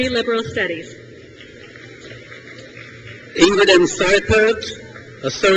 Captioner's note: crowd cheers